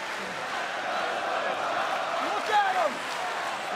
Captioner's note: crowd cheering